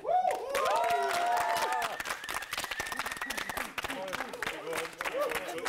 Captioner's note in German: Applaus, Jubel